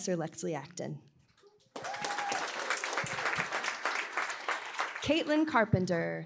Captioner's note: applause